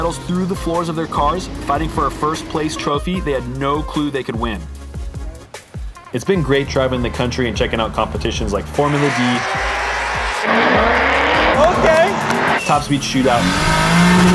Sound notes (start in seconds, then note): 9.4 engines growl; 11.8 claps